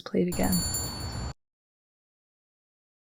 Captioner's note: shopkeepers bell jingles